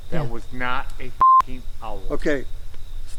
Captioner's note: beep